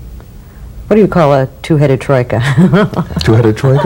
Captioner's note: laughs